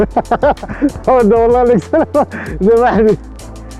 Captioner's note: laughs